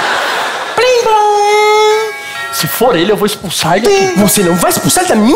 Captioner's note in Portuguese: campainha